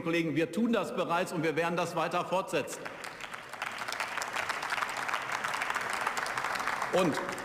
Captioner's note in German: Beifall